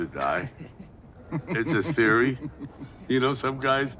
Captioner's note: associates laughing